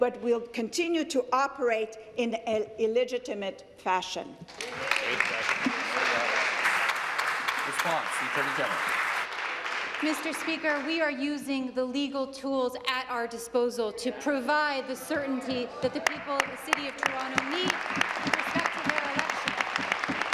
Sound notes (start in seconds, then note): 7.8 applause